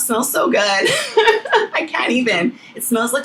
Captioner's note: laughing